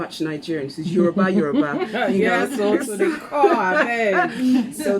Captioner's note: laughs